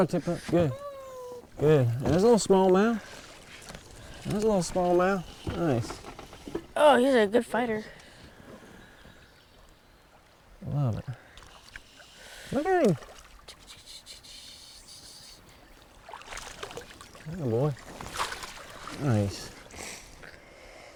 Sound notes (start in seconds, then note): 13.9 percussive hissing